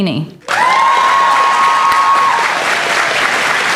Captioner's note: applause